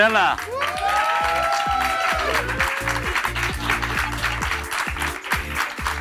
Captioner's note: audience applauds and cheers